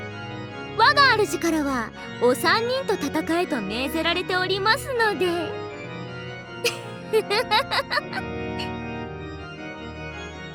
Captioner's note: giggle